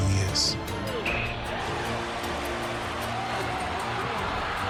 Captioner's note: crowd cheering